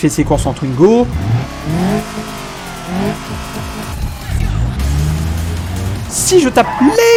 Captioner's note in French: Moteur qui vrombit sur fond de musique eurobeat